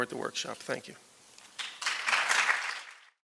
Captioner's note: applause